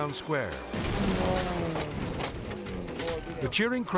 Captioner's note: stunt car crashing